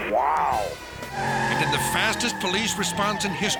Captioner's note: tires screech